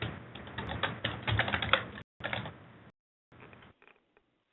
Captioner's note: keyboard clicking